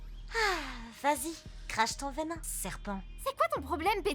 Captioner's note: sigh